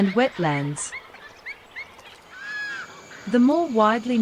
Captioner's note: bird sounds